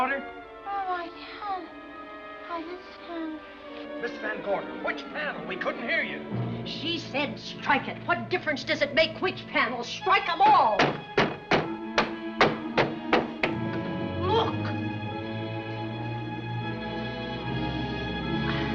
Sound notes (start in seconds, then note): none